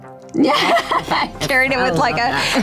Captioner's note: Jessica laughs